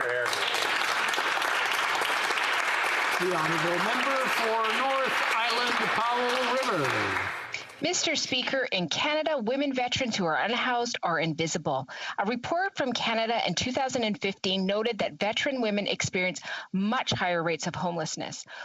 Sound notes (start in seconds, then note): 6.4 applause